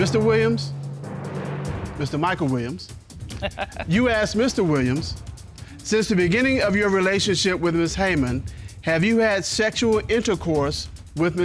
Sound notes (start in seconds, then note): 3.2 judge laughs